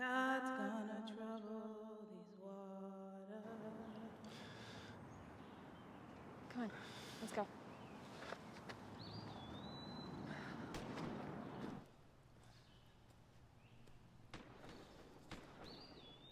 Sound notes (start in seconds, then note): 10.4 gun firing